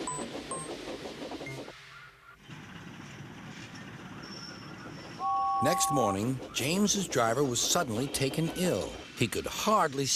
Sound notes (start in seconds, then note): 4.7 whistles